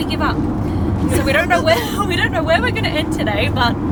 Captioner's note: laughs